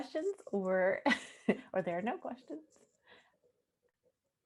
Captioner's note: chuckling